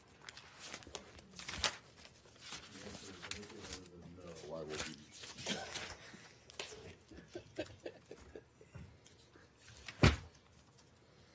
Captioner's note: laughter